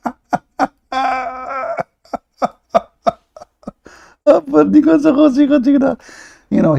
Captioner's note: Ketawa